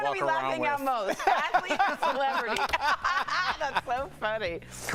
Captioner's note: laughter